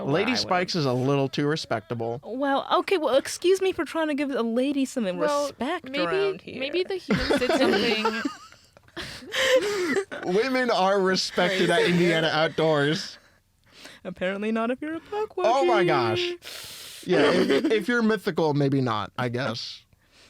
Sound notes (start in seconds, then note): 7.0 laughter; 17.1 laughs